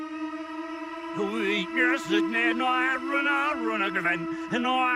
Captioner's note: reversed audio